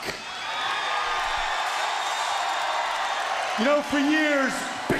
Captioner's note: crowd cheering